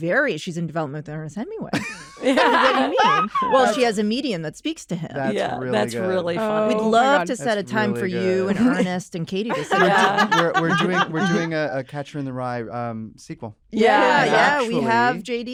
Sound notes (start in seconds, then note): 1.7 laughter; 9.5 hannah laughs